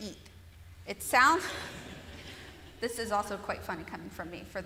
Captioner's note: laughter